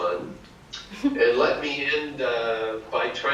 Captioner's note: laughs